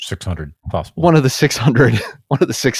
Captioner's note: laughs